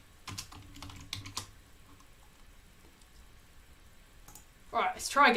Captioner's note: keyboard clicking